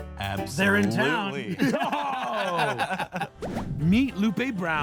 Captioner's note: everyone laughing